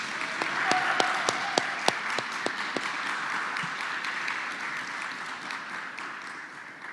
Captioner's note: applause